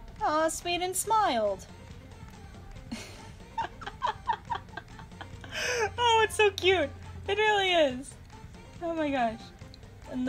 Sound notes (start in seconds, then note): 2.8 laughter in the background